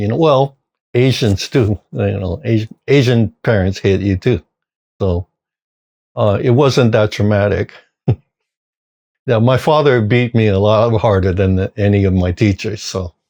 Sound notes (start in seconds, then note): 8.0 chuckle